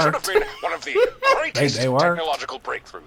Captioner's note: laughing